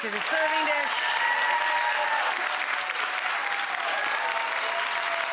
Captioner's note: audience cheering